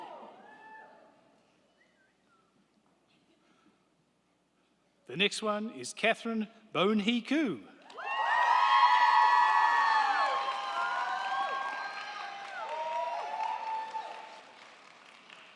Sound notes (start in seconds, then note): 7.8 crowd clapping; 7.9 crowd cheering